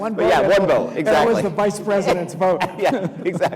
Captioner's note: laughs